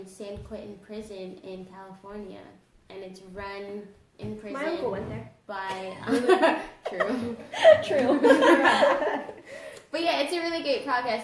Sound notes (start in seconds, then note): 8.9 laughs